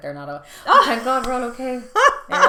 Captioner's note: laughing